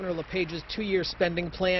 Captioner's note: applause